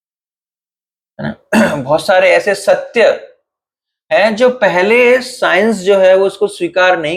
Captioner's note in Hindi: गला साफ़ करने की आवाज़